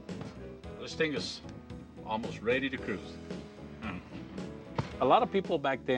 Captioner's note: laughing